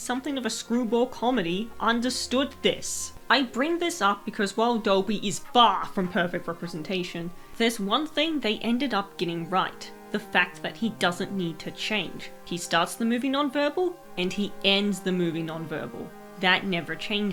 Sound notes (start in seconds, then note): none